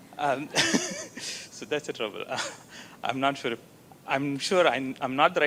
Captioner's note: laughs